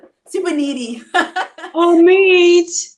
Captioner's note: laughs